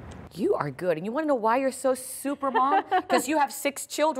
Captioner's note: laughter